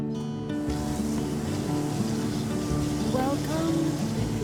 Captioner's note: water running